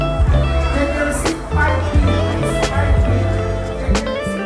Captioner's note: staff chatter